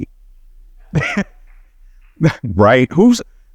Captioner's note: laughs